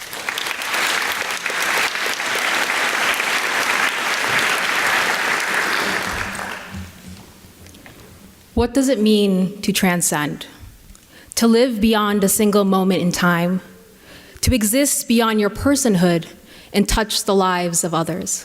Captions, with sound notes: [ Applause ] >> What does it mean to transcend? To live beyond a single moment in time, to exist beyond your personhood and touch the lives of others.